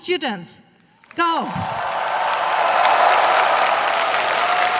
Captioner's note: applause